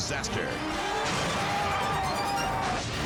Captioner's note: vehicle crashing; screen whooshing